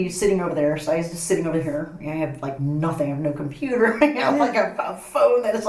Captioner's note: laughs